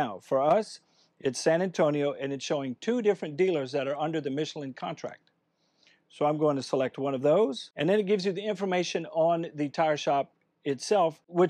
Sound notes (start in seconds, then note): none